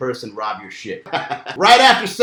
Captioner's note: laughs